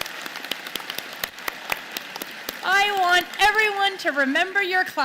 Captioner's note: applause